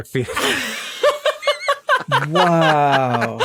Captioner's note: laugh